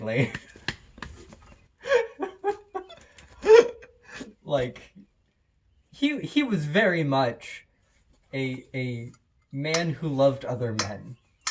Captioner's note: laughter